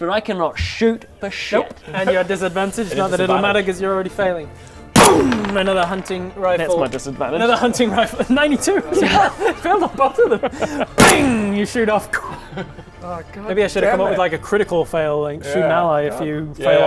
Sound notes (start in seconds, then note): 4.9 boom!; 11.0 bang!